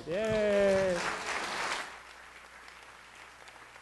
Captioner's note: applause